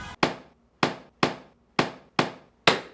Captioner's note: banging